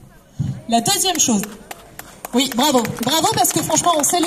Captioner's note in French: applaudissements